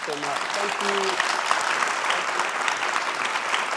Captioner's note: applause